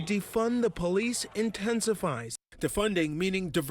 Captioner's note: crowd chanting